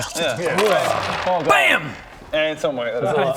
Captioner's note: bam!